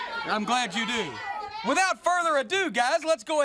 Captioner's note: crowd chatter